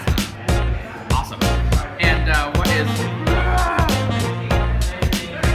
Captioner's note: groans